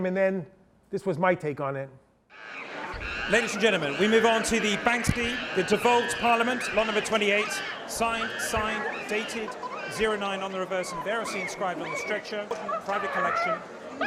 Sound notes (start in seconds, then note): 2.8 monkeys screeching